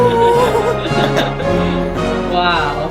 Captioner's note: laughing